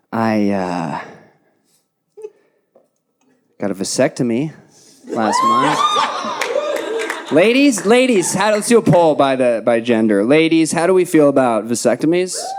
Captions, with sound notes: I got a vasectomy last month. Last month. (audience cheering) Ladies, ladies, let's do a poll by gender. Ladies, how do we feel about vasectomies?